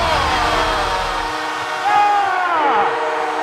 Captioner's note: crowd cheers